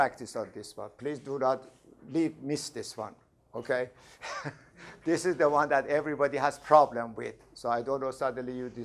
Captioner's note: laughs